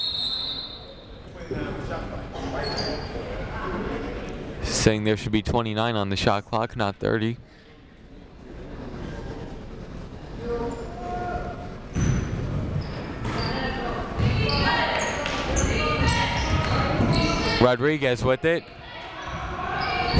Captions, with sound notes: (whistle tweeting) (people talking in the crowd) Saying there should be 29 on the shot clock, not 30. (people talking in the crowd) (people chanting in the crowd) Rodriguez with it.